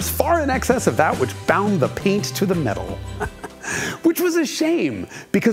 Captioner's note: chuckles